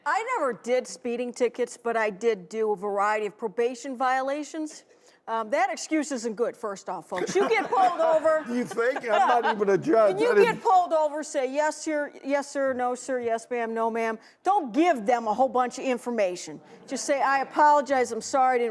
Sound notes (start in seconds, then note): 7.1 laughter